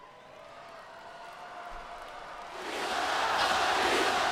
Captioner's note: crowd cheering